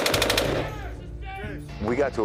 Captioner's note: comrade shouts